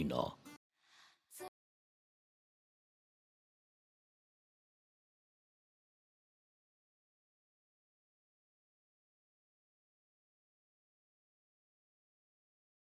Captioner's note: dead silence